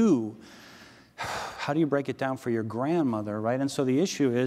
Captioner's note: sighs